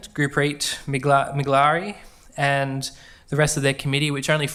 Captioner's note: speaks faintly